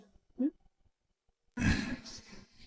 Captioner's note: A determined pause